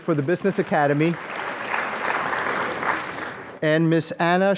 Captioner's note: applause